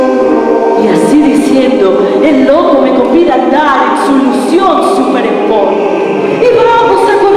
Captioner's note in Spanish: recitando